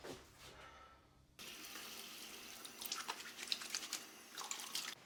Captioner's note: water trickling